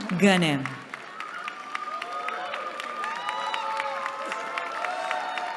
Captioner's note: cheering